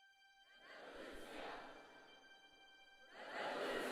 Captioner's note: crowd